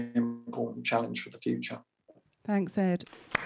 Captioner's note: applause